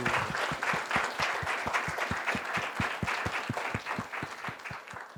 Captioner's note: applause